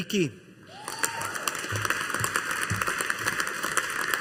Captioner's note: audience applauding